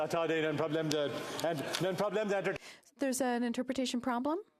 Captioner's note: speaking French